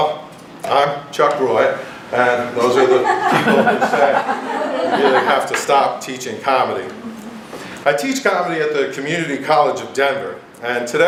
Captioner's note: laughter